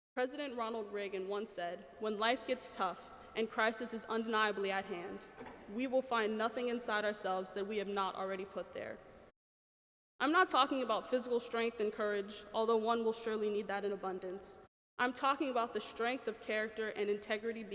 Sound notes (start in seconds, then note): none